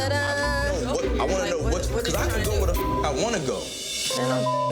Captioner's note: beeps